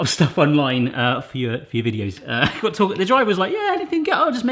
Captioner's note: laughs